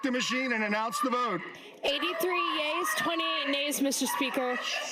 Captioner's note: shouting